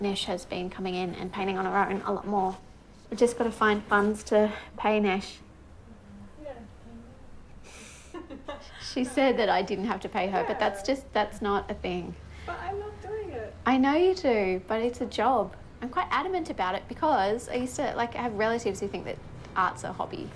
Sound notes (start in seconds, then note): 7.6 chuckling